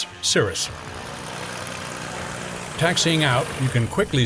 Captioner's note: plane engine roarng